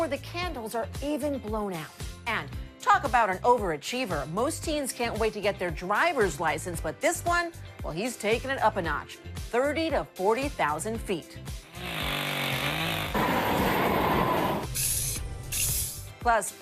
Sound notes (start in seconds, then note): 11.6 chainsaw buzzing; 13.1 flame whooshing; 15.0 spray paint hissing